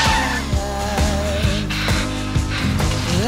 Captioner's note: panting